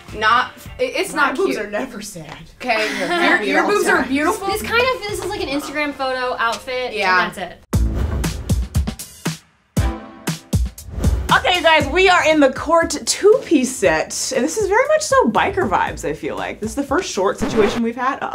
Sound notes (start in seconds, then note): 2.5 woman chuckles; 9.8 upbeat music